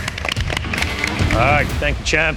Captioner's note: applauding